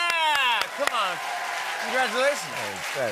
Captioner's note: cheers and applause